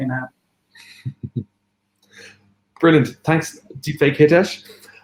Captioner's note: chuckles